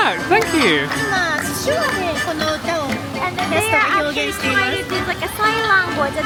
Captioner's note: guide speaking Japanese